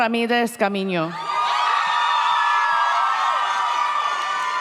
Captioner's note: audience cheers